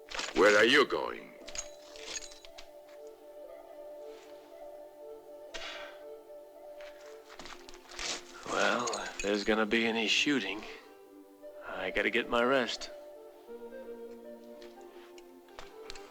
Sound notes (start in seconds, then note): none